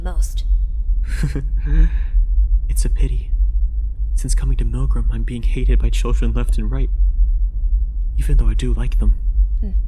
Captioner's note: chuckles